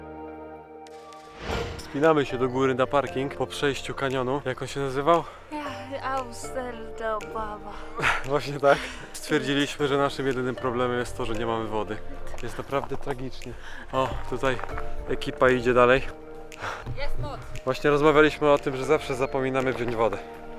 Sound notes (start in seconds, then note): 8.0 laughs